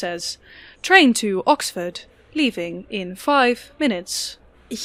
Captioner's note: as TRAIN VOICE